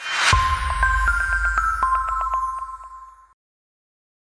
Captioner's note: tinkling chimes